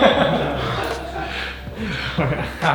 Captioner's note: laughing